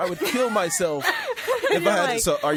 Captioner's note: laughing